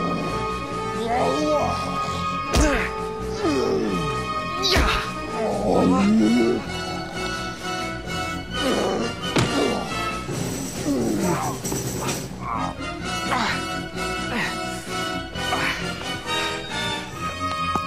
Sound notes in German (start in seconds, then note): 2.5 Schlaggeräusch, Ächzen; 4.6 Angestrengte Laute, Grollen; 10.7 Schmerzvolle Laute; 16.2 Bedrohliche Musik